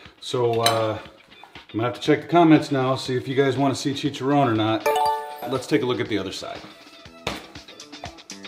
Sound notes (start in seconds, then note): 4.8 electronic bell ringing